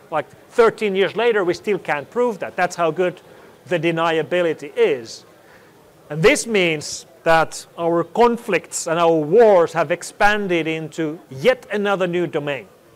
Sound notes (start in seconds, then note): none